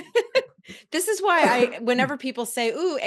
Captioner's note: chuckles